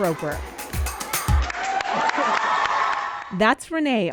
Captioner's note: cheers and applause